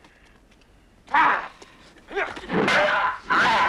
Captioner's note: raider shouts; swords clanging